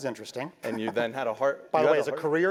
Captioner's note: laugh